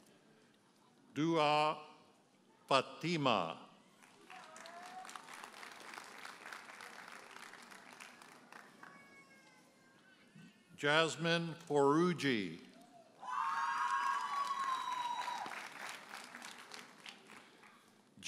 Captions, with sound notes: Duha Patima. (audience applauds) Jasmine Foroughi. (audience cheers and applauds)